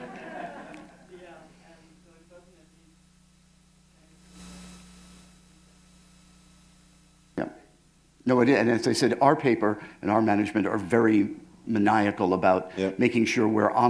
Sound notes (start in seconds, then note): 1.3 pause; 4.2 pause